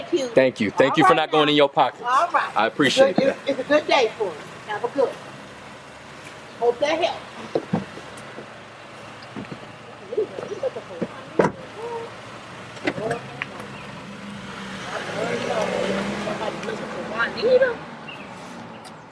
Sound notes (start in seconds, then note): 11.8 chatter; 13.5 car drives away